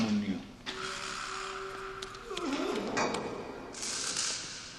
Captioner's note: grunting